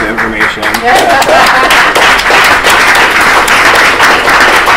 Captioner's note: applause